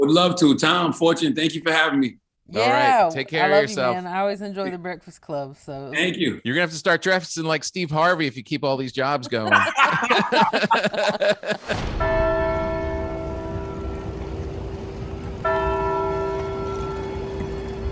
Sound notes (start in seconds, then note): 9.2 group laughs; 12.0 bell rings; 15.4 bell rings